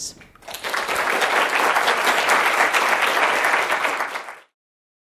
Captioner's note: applause